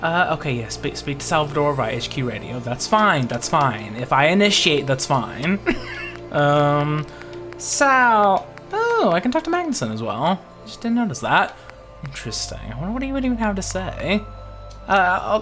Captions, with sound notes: Okay, yes, speak to Salvador via HQ radio. That's fine, that's fine. If I initiate, that's fine. (laughs) Sal, oh, I can talk to Magnussen as well. Just didn't notice that. Interesting, I wonder what he would even have to say.